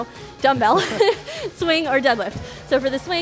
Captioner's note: laughs